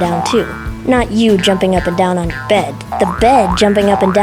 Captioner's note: boing, boing